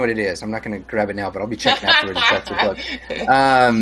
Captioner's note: laughs